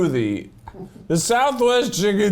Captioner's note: giggling